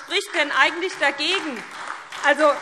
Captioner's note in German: Beifall SPD